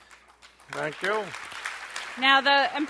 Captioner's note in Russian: аплодисменты